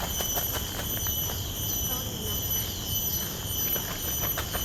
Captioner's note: rhythmic chirpings of the cicadas